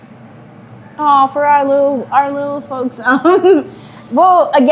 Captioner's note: laughs